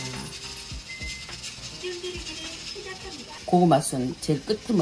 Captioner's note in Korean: 밥 짓는 소리